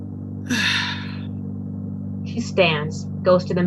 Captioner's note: sigh